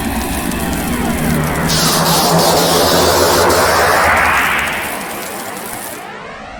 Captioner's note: electricity crackling; wind whooshing